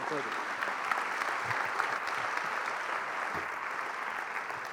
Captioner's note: applause